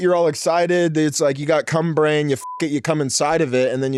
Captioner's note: beep